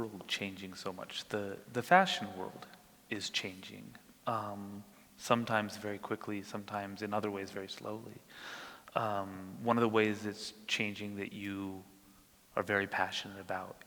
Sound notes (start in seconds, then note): none